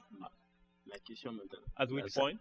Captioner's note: speaking french